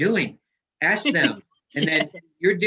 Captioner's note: laughs